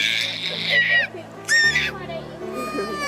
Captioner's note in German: Baby screamiong